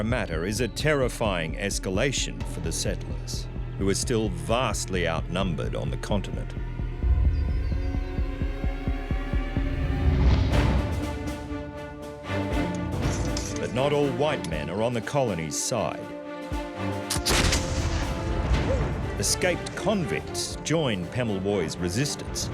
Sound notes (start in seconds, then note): 6.6 ominous music; 10.2 action music; 17.0 guns shots